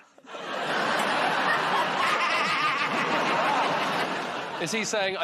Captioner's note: laughter